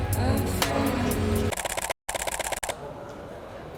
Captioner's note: camera shuttering